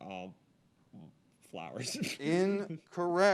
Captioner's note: laughs